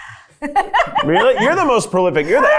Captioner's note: laughs